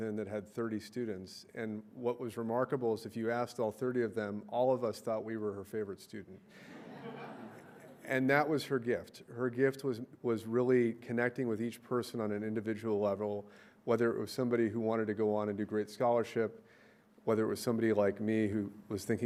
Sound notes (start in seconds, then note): 6.6 crowd laughing